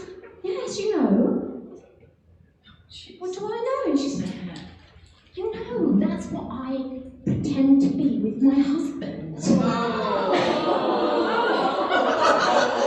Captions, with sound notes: She said, yes, you know. What do I know? She said, you know, that's what I pretend to be with my husband. (laughing)